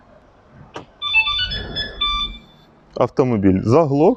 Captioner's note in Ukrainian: звук: автомобіль став на охорону